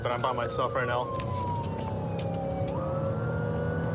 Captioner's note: siren blaring